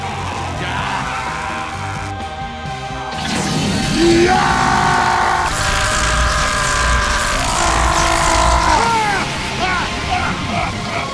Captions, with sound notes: Yeaaaaaaagh!! *Screaming* *Laughing*